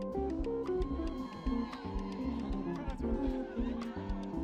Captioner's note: people cheering